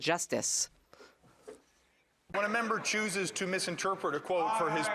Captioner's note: applause